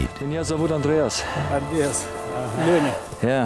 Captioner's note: speaking Russian